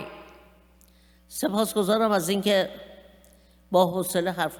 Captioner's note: speaking persian